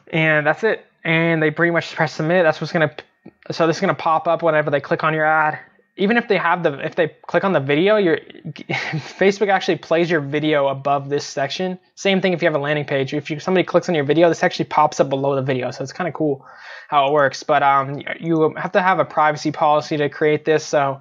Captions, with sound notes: And that's it and they pretty much press submit, that's what's gonna, so this is gonna pop up whatever they click on your ad. Even if they have, if they click on the video, you (chuckles) Facebook actually plays your video above this section. Same thing if you have a landing page. If somebody clicks on your video this actually pops up below the video, so it's kind of cool how it works. You will have to have a privacy policy to create this.